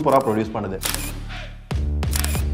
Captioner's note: photos clicking